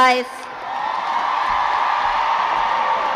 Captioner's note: crowd cheers